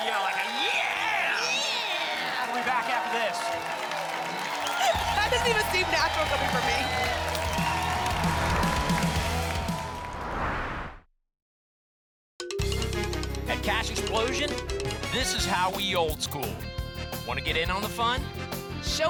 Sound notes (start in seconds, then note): 3.8 applause and cheering cont; 8.0 whoosh